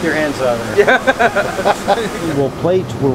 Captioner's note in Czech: Oba se smějí